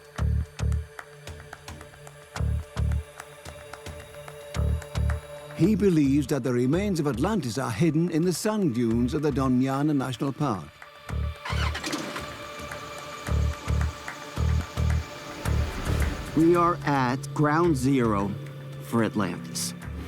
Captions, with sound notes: (rhythmic music) He believes the remains of Atlantis are hidden in the sand dunes of the Doñana National Park. (car engine starting) (rhythmic music) We are at ground zero for Atlantis.